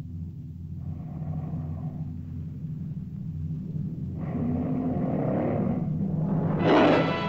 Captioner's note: tense music; lizard growls; dramatic music; lizard roars